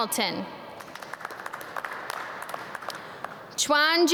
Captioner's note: audience clap